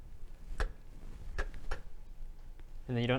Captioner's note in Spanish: chk; chk chk